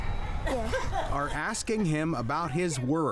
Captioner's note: woman laughing